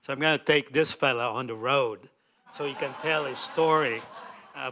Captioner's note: laughter